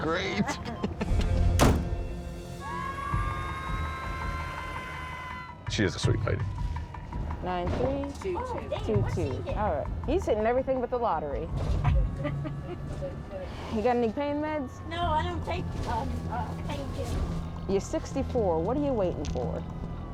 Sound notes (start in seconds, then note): 0.0 laughs; 2.2 siren; 11.8 laughs